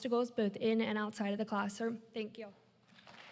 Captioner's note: applause